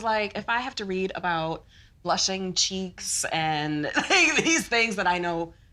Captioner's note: laughs